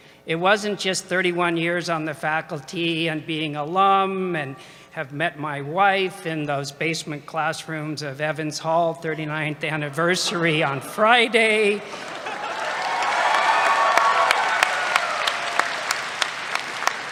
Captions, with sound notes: It wasn't just 31 years on the faculty and being alum and have met my wife in those basement classrooms of Evans Hall, 39th anniversary on Friday. [CHEERS]